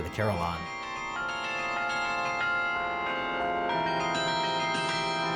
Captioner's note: bells chiming